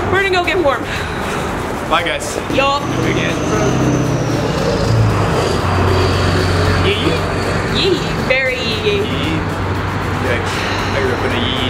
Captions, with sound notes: We're gonna go get warm. (shivers) - Bye guys. - Yup. - Big ass truck. (truck driving past) Yee-yee! - Yee. Very yee-yee. - Yee-yee. Yikes. I grew up in yee-yee town.